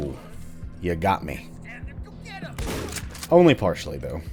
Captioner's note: boom